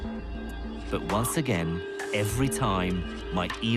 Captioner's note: voiceover